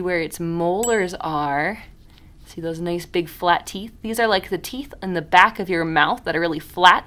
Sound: ding

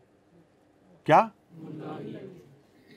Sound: audience repeats

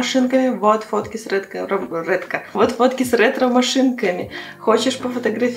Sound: talking

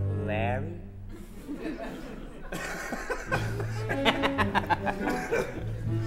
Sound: laughter

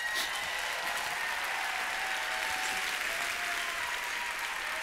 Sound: applause

